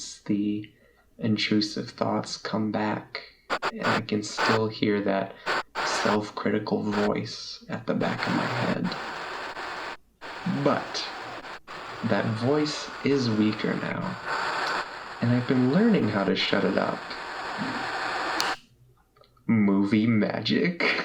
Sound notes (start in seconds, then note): 3.4 static buzzing; 9.7 static buzzing; 18.4 fingers snap